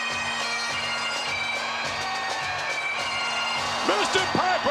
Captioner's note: audience cheering